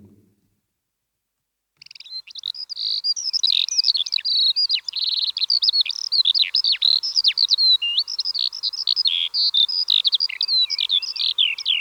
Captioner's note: birdsong